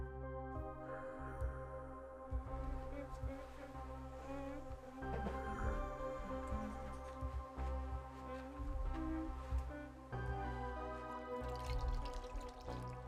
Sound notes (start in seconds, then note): 0.3 solemn music; 2.6 Emma humming; 10.2 solemn music